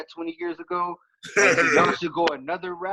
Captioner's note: laughs